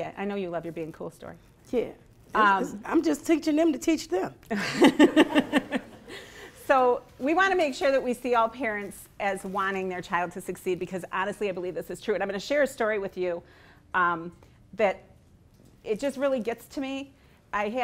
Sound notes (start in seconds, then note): 4.6 laughing